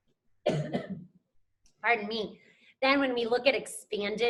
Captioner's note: coughs